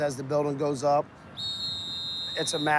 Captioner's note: whistle blows